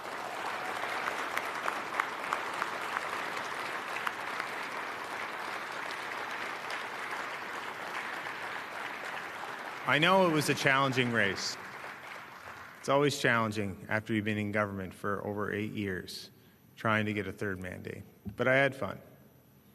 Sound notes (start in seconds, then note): 5.4 applause